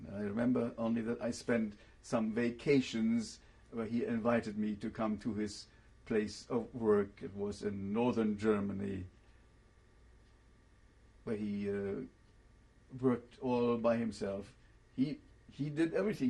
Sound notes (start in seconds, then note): 9.4 pauses for 3 seconds